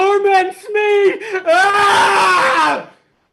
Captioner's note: scream